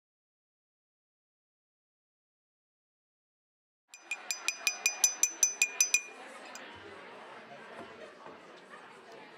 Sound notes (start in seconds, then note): 3.9 glass clinking